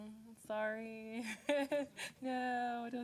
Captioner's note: laughing